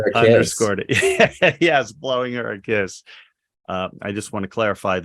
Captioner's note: laughing